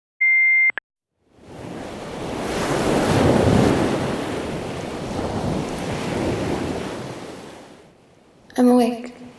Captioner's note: beep; ocean waves crashing